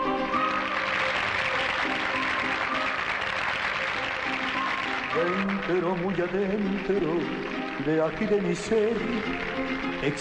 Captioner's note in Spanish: Aplausos